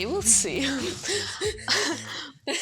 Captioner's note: laughing